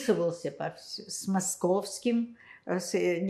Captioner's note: counting